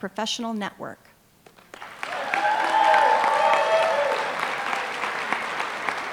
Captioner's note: applause